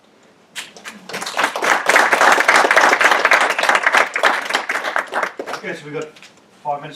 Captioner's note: applause